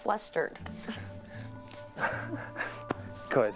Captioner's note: laughing